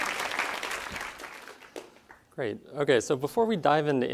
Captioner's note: applause